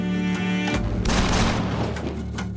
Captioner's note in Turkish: Silah sesleri